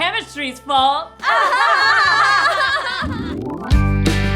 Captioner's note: laughs; upbeat music